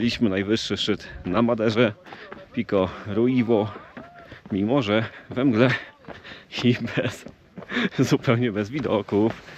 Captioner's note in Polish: śmiech